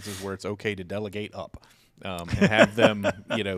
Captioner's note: chuckles